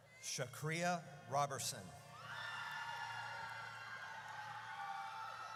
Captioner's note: audience cheers